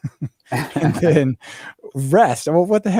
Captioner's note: laughs